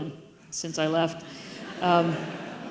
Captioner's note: audience laughs